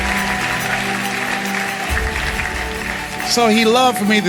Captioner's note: laughter & Applause